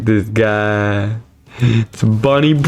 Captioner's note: inhales Oxygen